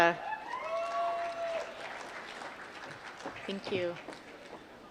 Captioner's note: applause